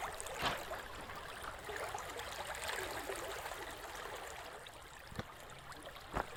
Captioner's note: stream burbling; pebbles crunching